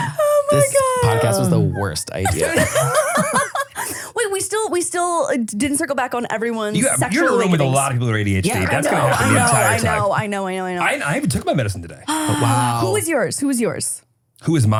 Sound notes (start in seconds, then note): 3.2 laugh